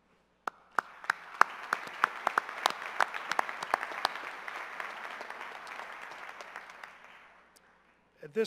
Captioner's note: cheers and applause